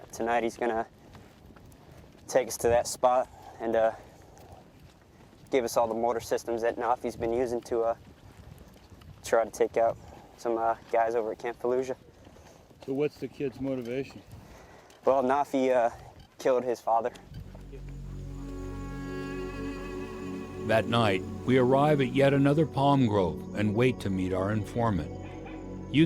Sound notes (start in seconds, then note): 17.9 crickets; 20.9 voiceover